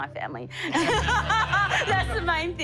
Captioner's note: laughter